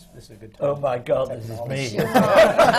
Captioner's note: laughter